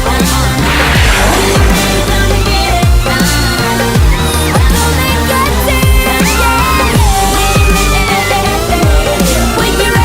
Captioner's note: Sweet Polly Screams